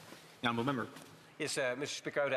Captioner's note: speaking French